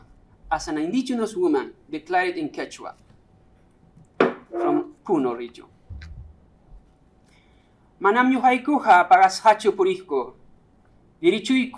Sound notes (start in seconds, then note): 7.9 speaking quechua